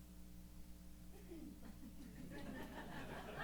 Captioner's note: laughter